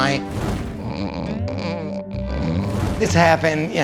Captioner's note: snoring